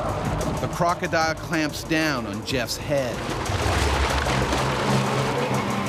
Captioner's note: voiceover